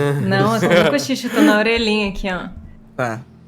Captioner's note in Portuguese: risada